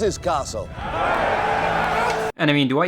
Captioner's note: men cheering